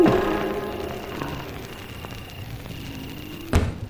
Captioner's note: fire crackling